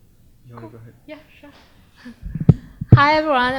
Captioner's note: chuckles